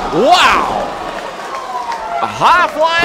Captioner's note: crowd cheering and clapping